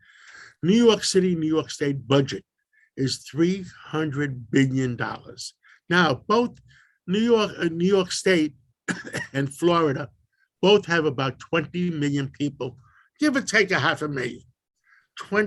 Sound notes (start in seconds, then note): 8.8 coughs